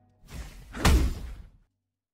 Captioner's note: swoosh, Thud